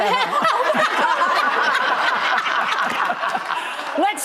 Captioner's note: audience laughing